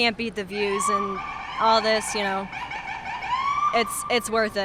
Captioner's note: siren